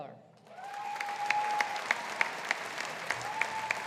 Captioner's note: audience applauding